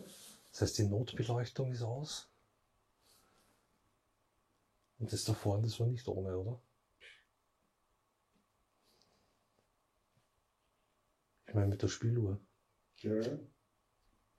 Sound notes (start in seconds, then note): 6.4 silence in the background